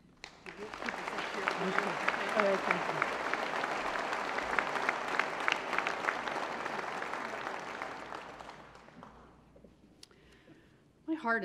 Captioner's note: applause